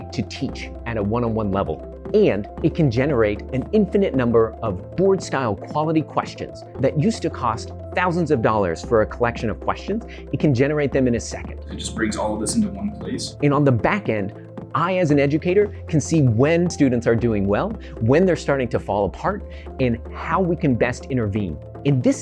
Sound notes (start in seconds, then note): 11.7 NATURAL sound of students working on the app